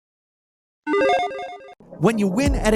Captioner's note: logo pinging